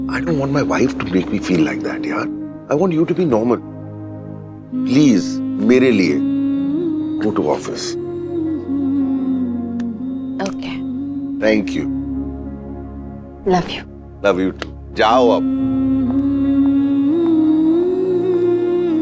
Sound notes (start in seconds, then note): 16.4 Footsteps